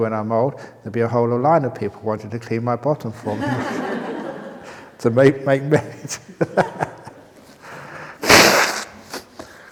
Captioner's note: laughter